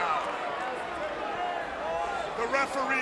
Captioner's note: crowd cheering